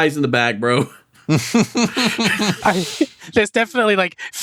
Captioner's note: laughs